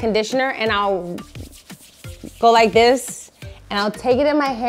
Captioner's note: hands rubbing